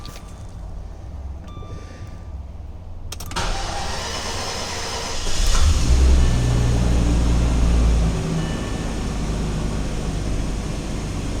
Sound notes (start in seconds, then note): 3.3 engine turns over; 5.4 engine catches, settles into high warmup idle